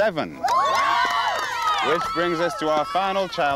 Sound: girls cheering

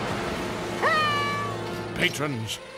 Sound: Mickey alarmed shouting

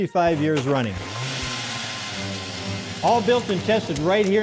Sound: engine revving

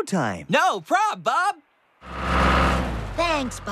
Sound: engine Revs

